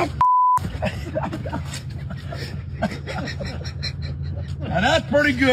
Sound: laugh

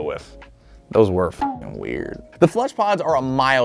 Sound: bonging

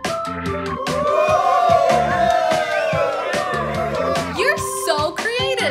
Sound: cheers

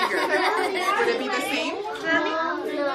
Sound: student laughs

